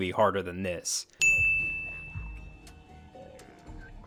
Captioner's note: ringing